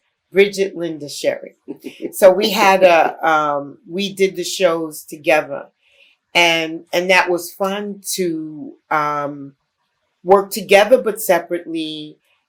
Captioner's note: laughter